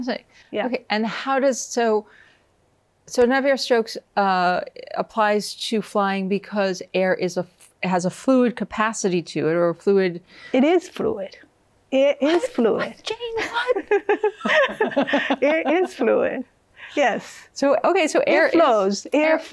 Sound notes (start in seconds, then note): 13.3 laughs; 13.4 both laughing